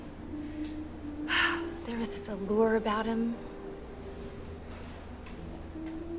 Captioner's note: sigh